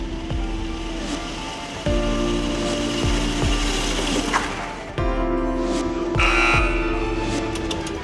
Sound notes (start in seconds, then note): 6.1 buzz